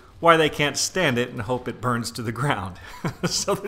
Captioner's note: chuckles